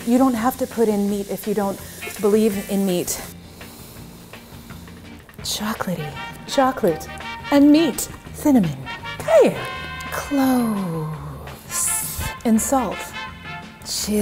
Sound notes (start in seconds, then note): 3.4 sniffing deeply